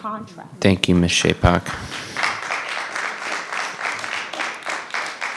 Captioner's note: audience applauding